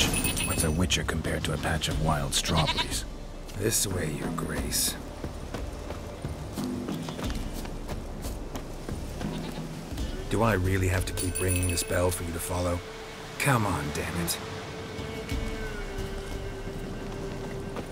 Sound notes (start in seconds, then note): 0.0 rings bell; 3.3 sarcastically